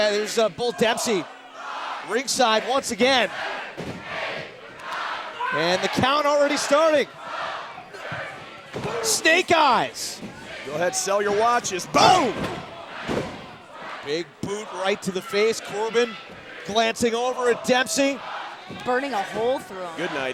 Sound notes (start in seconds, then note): 7.8 fans chanting